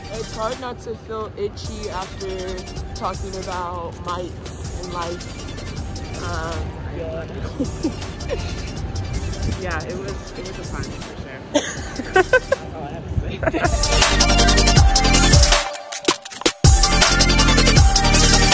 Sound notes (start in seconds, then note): 7.2 laughs; 11.5 laughs; 13.4 energetic music